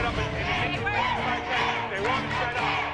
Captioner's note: audience chanting "Let them dance!"